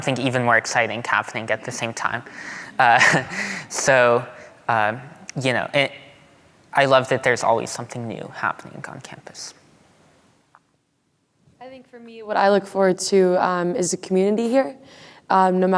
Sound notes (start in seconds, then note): 2.8 audience laughing